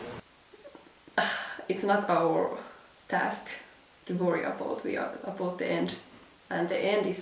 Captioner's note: sigh